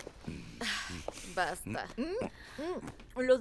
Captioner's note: Resopla